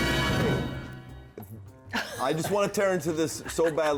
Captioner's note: laugh